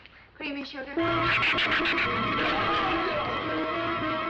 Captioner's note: shrew chattering